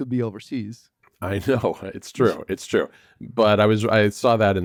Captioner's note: laughs